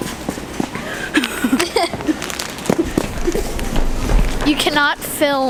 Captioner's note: laughing